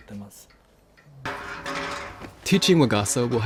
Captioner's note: clanging sound